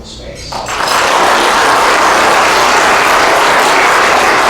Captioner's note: applause